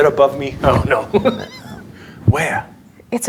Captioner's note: laughing